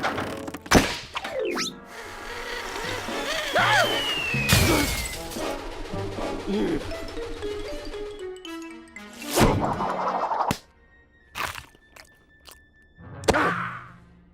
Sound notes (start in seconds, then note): 3.4 gasps; 6.5 sighs